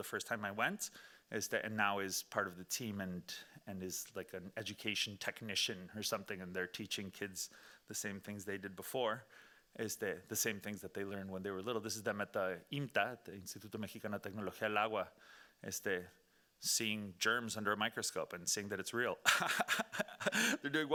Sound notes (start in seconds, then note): 14.0 speaking Spanish; 19.2 laughing